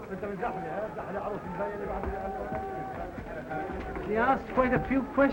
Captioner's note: Pepe speaks in foreign language; people chattering